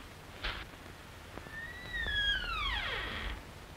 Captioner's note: door creak